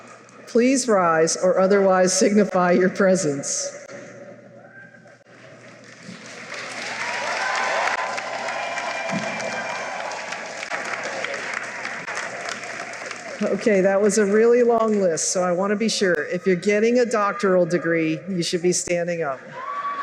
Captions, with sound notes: Please rise or otherwise signify your presence. [cheering and applause] Okay, that was a really long list, so I want to be sure; if you're getting a doctoral degree, you should be standing up.